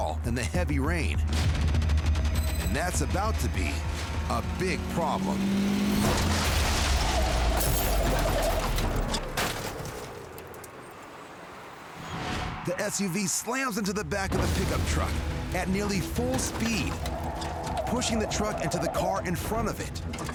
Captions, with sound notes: in the heavy rain. And that's about to be a big problem. -[tires screeching] -[glass shattering] The SUV slams into the back of the pickup truck at nearly full speed, pushing the truck into the car in front of it,